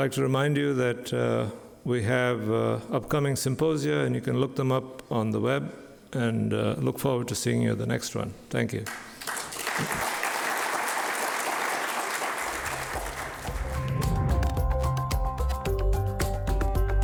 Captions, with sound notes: I'd like to remind you that we have an upcoming symposium, and you can look them up on the web. I look forward to seeing you at the next one. Thank you. (audience applauding) (upbeat music)